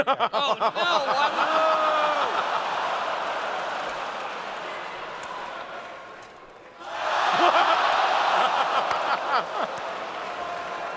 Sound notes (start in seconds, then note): 6.8 audience cheers